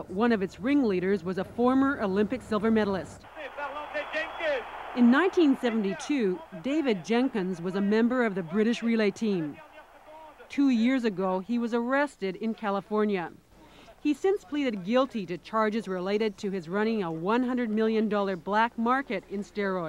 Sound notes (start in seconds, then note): 3.2 cheering